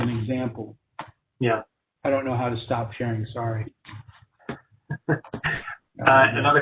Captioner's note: laughs